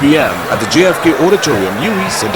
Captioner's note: wild applause and cheering for 22 seconds